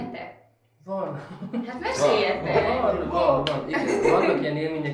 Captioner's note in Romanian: băieții în cor